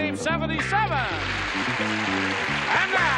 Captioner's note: applause